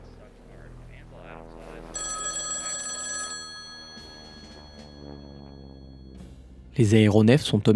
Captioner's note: plane sound intensifiying; radio sound; the Telephone rings